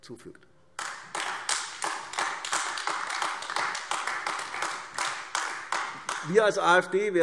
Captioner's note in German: Beifall AfD